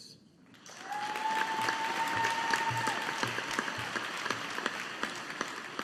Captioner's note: audience applauding